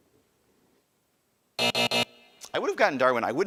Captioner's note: buzzer buzzing